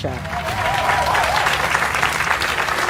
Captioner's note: audience applauds